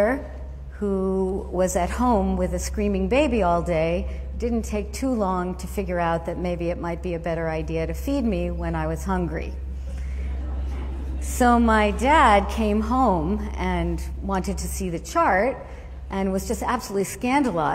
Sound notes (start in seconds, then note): 9.9 laughter